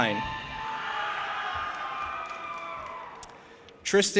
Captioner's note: audience applauding and cheering